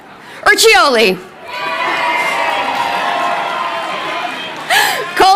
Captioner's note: crowd cheering